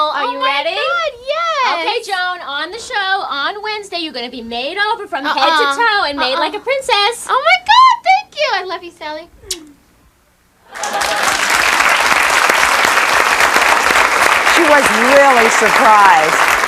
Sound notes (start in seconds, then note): 9.4 makes kissing noise; 10.7 audience clapping